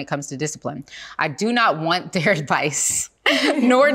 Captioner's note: chuckling